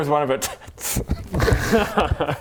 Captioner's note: schoolboy giggles